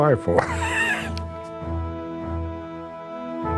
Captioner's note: laughs